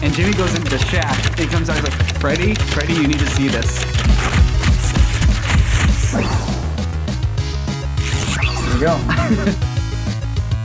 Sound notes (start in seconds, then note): 8.8 laughs